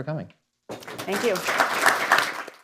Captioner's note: applause